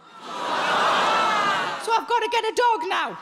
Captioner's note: audience groaning